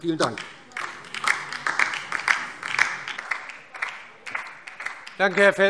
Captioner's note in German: Beifall DIE LINKE